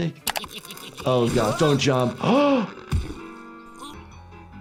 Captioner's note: gasps